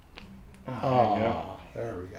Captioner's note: man groans